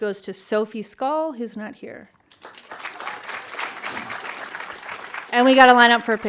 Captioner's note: audience applauding